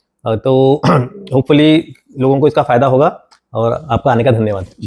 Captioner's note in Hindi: गला साफ़ करने की आवाज़